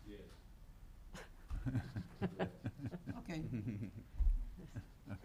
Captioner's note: chuckles